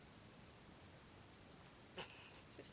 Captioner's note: laughs